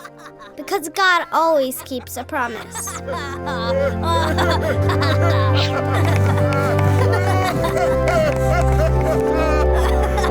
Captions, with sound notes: because God always keeps a promise. (laughter)